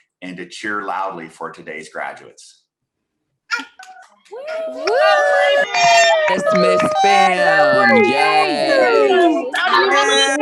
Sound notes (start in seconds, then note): 4.3 participants cheer